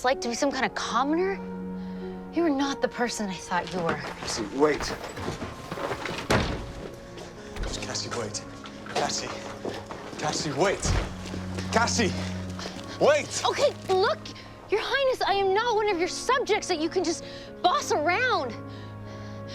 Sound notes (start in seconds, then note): 6.3 door thuds